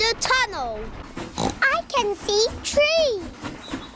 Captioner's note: oinks